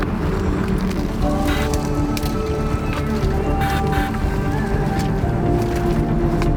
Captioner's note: branches cracking; suspenseful music continues